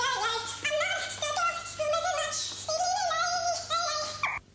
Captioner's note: humming